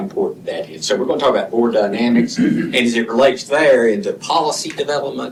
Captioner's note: clears throat